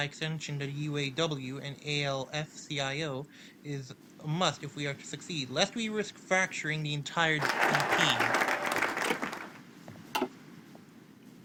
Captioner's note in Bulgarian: Аплодисменти